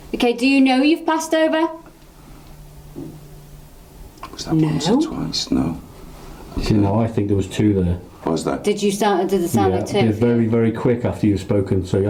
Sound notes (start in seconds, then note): 2.9 knock